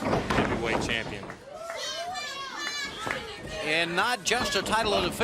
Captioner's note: crowd chatter